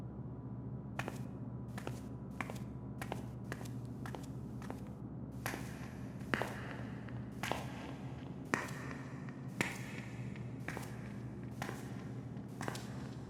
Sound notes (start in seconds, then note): 5.5 footsteps